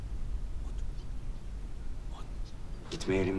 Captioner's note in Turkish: Fısıltıyla